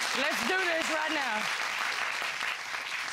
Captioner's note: audience applauding